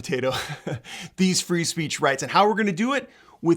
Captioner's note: chuckles